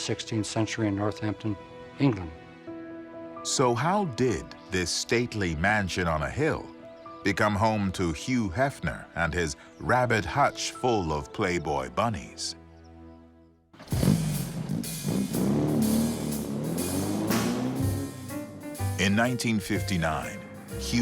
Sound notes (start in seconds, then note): 13.8 car engine revving; 17.6 jazz music